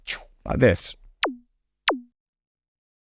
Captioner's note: zapsounds